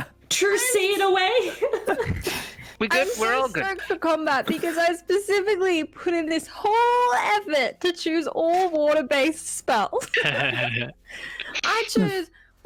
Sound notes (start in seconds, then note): 1.6 unruly giggles; 10.0 giggles; 10.1 chuckles